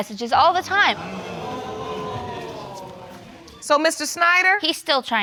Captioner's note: audience exclaims